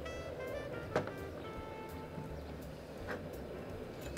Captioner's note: bottle tapping